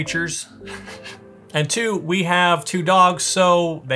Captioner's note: laughing